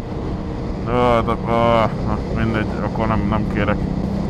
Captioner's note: sounds of giving up on life